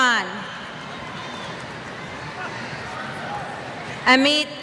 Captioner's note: cheers